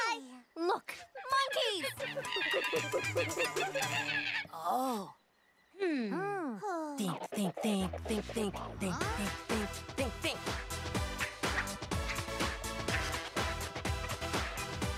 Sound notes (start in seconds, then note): 1.0 monkey cries; 10.6 rhythmic music playing